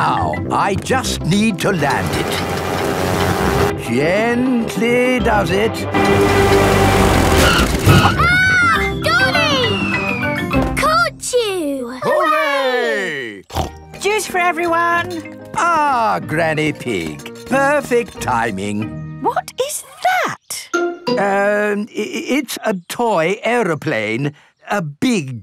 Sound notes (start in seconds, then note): 7.4 screams; 13.4 snorts